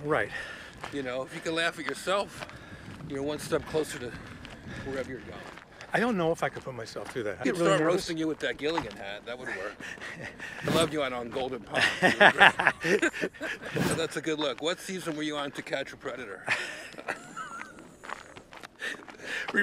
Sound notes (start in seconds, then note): 11.7 laughing drowns out speaker; 16.3 laughing